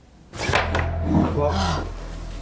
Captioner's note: clattering; dramatic music; gasps